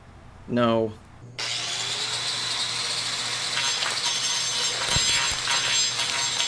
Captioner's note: saw buzzing, squishing